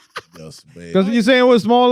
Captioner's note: laughing